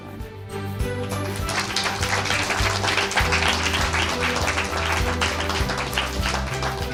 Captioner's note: bright pop music; audience applauding